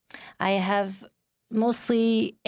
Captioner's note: speaking in French